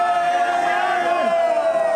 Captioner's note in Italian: Applauso